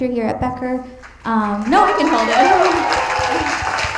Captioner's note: attendees applauding